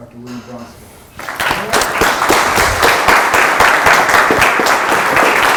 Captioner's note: applause